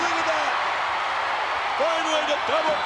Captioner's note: crowd cheers enthusiastically